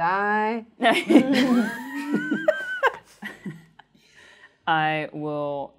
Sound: chuckles

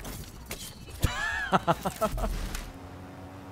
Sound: laughs

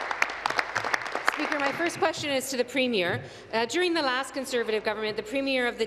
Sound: applause

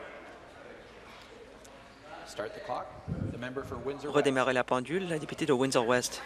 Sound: conversation din

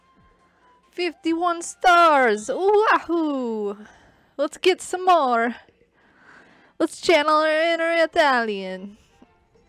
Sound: Italian accent

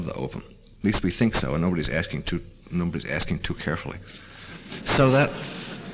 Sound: laughter

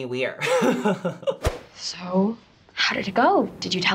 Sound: laughs

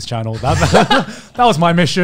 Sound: laughs

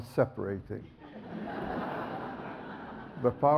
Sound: audience laughs

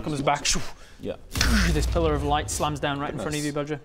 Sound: dooorsh

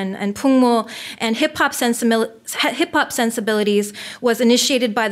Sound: foreign language

